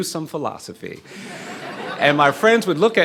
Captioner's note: laughing